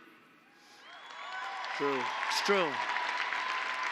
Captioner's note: applause